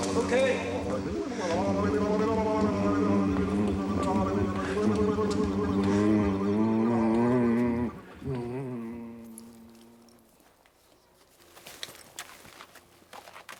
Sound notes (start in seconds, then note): 0.0 humming and trilling; 0.8 camcorder beeps